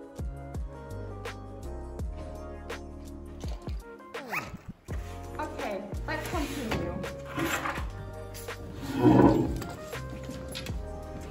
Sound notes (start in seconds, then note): 4.1 zip